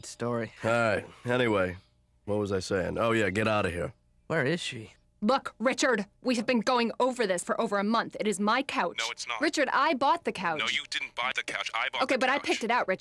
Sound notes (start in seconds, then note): 10.3 on phone